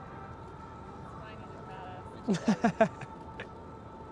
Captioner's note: Caufield laughs